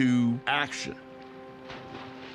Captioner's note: water splashes